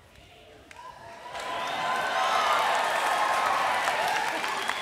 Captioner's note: applause